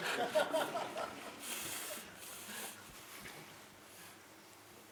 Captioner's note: laughter